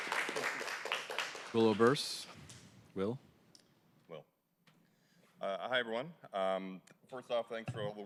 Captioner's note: applause